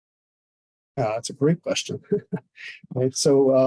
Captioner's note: chuckles